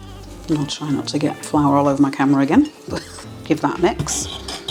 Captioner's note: laugh